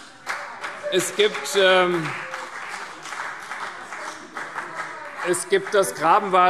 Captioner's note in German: Demonstrativer Beifall SPD